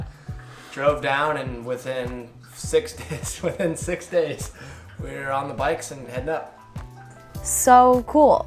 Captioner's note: laughs